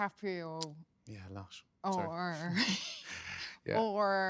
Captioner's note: laughs